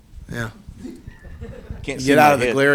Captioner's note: laughing